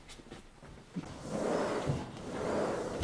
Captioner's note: door opens